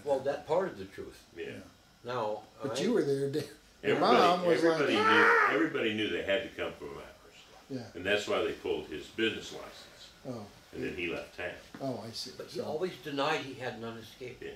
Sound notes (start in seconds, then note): 5.0 shouting